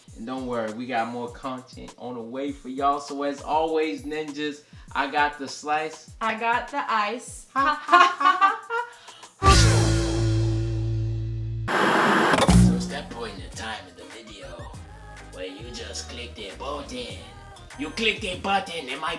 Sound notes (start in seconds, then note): 7.5 laughter